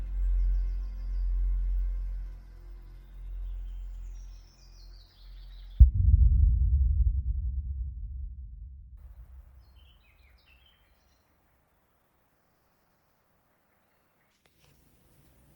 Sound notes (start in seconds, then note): 0.8 birds chirping